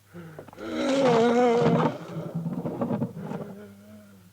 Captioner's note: Kurt groans